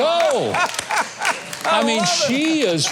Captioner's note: laughs